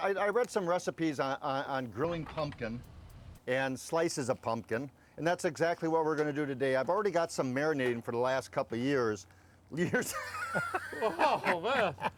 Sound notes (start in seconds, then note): 9.8 laughing